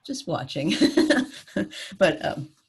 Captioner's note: laughter